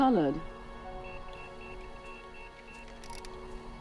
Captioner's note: device trilling